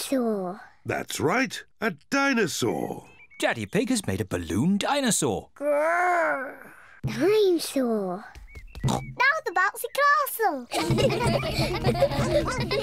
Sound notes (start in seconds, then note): 4.8 growls; 8.8 oinks; 10.6 kids giggling